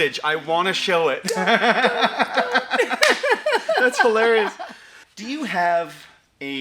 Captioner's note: both laughing